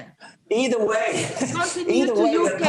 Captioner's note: laughs